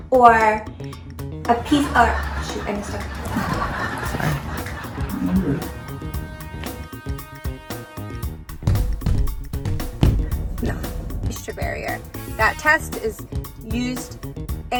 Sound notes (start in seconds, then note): 1.5 audience laughs; 6.9 object tapping; 8.5 robot feet thudding